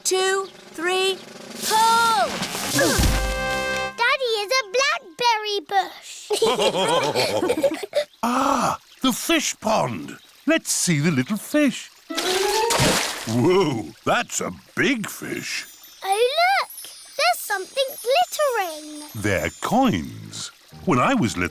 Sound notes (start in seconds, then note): 2.7 all grunt; 6.3 all laughing